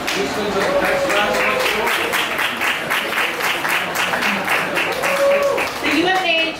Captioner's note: applause